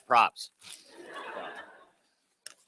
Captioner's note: laughter